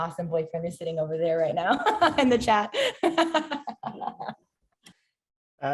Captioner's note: laughs